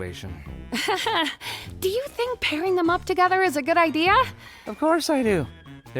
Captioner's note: laughs nervously